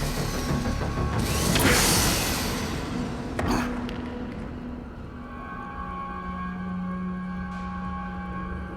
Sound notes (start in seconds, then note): 1.1 thuds; 5.0 tense music